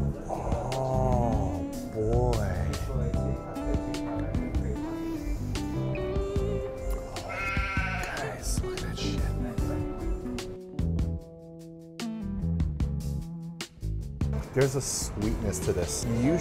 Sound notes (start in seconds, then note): 4.8 inhales; 6.1 salivates; 8.5 whispers